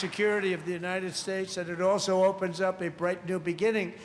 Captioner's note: cheers and applause